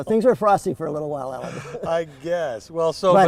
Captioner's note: laughter